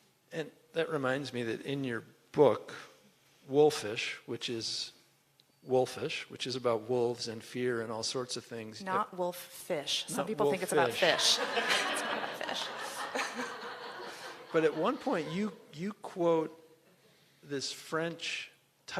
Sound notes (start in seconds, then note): 11.0 laughter